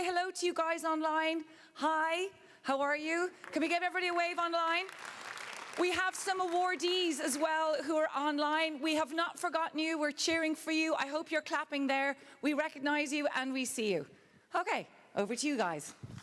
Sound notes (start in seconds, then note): 4.6 applause